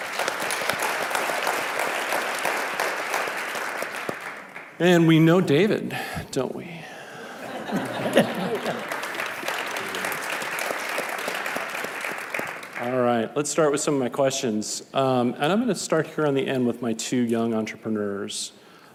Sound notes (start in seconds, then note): 0.0 audience clapping; 7.2 laughing; 10.0 audience clapping